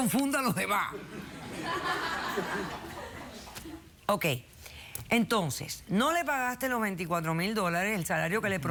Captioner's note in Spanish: risas